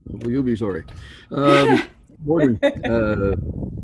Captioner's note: giggles